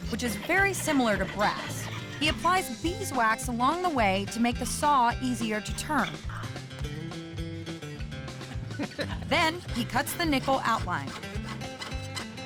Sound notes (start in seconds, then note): 6.4 softly claps; 8.5 both laughing